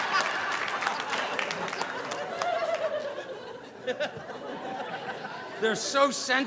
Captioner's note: audience applauding; audience laughing